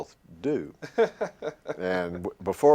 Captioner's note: laughter